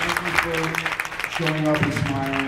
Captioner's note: applauds